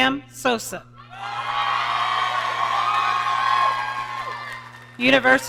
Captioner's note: audience cheering